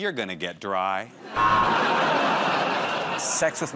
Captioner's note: buzzer